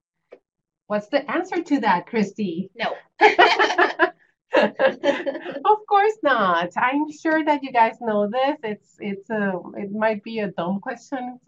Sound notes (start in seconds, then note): 3.2 laughter